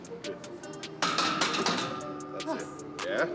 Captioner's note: bar clanks